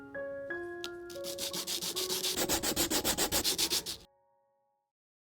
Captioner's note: raspy sound of sanding